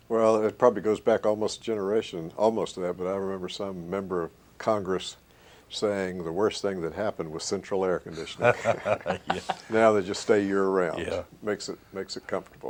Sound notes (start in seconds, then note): 8.2 laughter